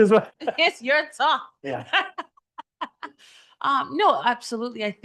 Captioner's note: laughs